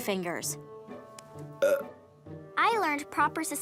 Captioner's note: burping